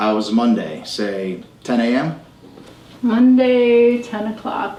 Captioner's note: none